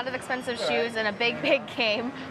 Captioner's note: laughs